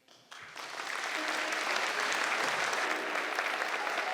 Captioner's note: audience applauding; gentle piano music